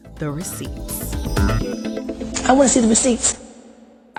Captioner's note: soundbite of archived recording